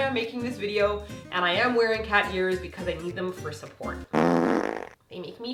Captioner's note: fart sound effect